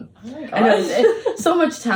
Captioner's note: laughs